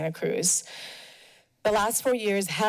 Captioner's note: pause